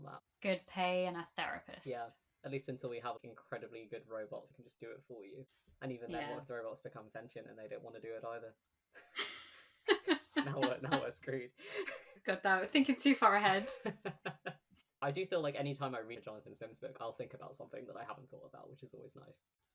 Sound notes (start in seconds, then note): 9.9 laughs; 13.5 laughs